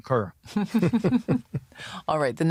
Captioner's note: laughter